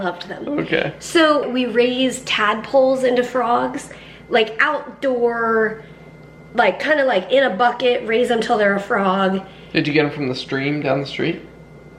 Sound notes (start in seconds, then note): none